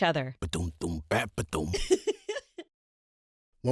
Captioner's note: happy giggle